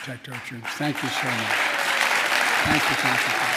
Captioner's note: applause